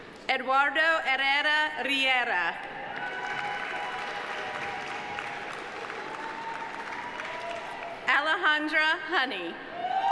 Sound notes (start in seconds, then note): 2.9 audience cheering; 2.9 audience applauding